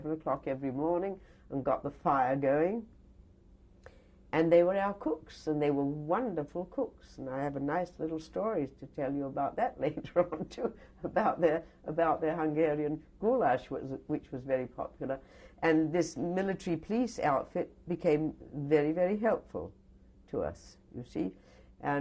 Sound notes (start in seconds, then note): 9.9 laughs